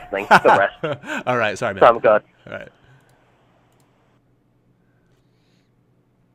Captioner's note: laughs